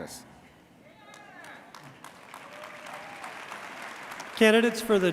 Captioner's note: audience cheers